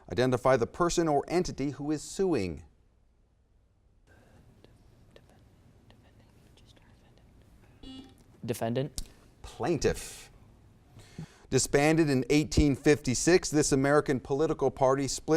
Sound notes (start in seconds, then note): 7.8 buzzer beeps